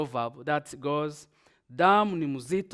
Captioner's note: speaking in Swahili